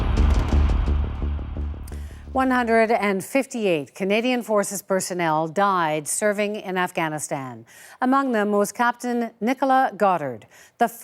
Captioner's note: gunshots